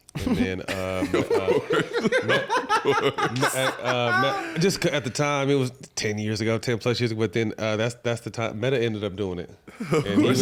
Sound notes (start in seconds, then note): 0.1 laughing